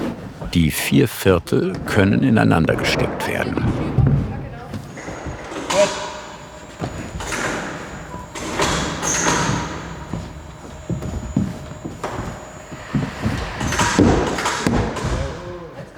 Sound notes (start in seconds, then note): 3.5 quiet voices; 8.2 working noises; 14.3 muffled hammer blows